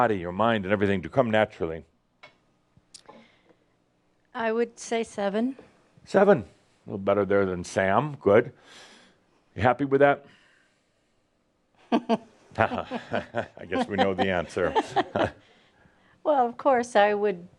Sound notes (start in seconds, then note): 12.6 she chuckles